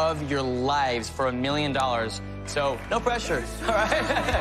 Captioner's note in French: laughs